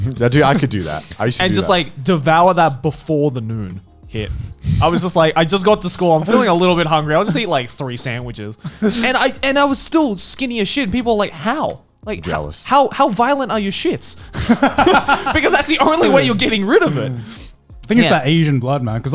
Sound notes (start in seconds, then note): 14.3 laughing